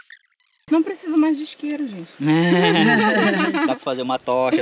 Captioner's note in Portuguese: risadas